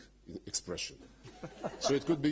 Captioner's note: laughter